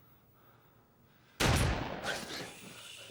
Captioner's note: gunshot